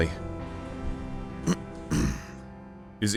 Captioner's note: clears throat